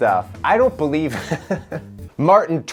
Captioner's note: laughs